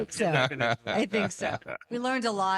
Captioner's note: laughing